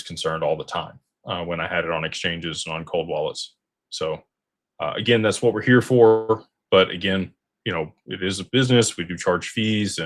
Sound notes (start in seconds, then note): none